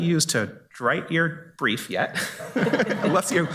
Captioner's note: laughs